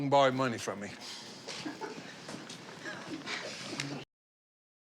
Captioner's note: chuckling